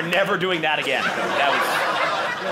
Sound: audience laughing

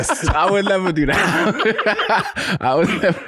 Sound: laughs

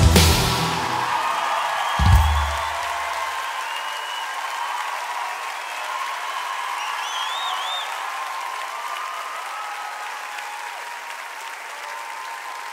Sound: Gritos y aplausos

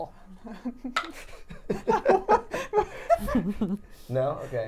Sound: all laughing

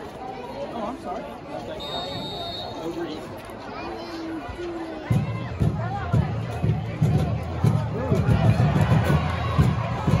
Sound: whistle blows for the kick

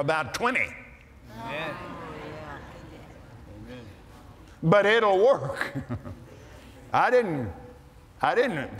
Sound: audience Agrees

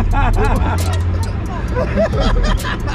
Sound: laughs

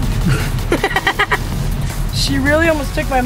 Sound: laughing

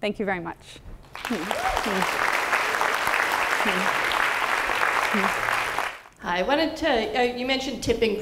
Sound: applause

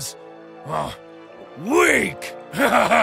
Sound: grunt

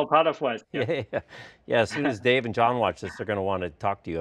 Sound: laughs

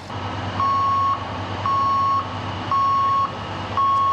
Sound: horn beeping

